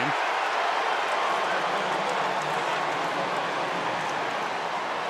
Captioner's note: cheering